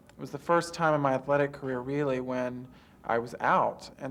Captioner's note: none